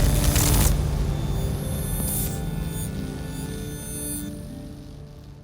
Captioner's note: transition swooshing; electricity humming; electricity buzzing